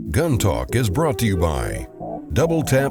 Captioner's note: voiceover